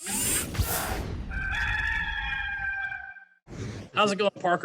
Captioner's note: rooster crowing